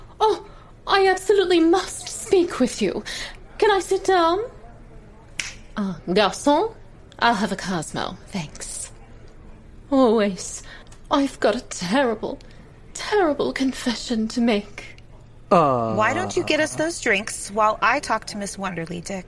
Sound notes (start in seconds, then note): 5.4 snapping